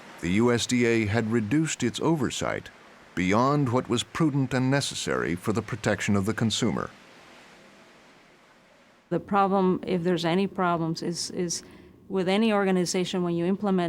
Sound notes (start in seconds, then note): none